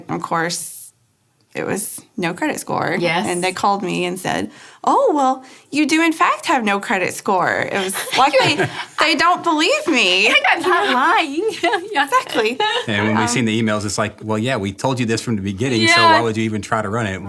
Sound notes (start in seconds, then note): 10.3 laughing